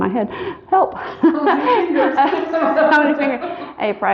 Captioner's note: laughing